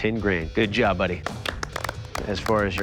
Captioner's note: applause